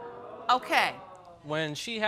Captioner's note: audience moans